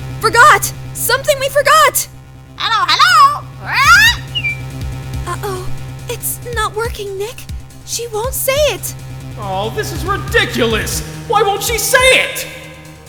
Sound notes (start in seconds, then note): 2.6 squawk, whistle